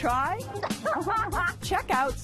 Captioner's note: laughs